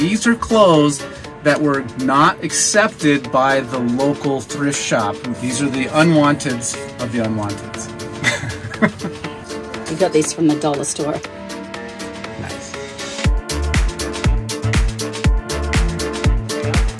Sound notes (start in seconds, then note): 8.1 laughing; 13.4 upbeat music